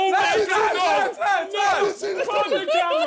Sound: yelling

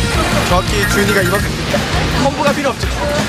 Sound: excited spectator

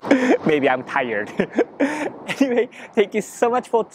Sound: chuckle

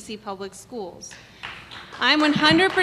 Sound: applause

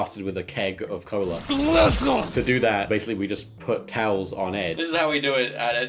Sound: drowning noises

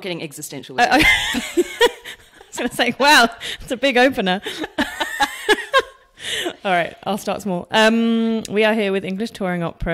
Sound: laughs

